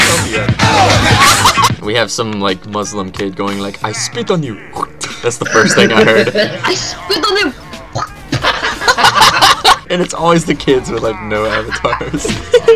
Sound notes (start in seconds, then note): 4.8 hak-tu!; 6.4 laughs; 9.4 laugh; 12.4 laugh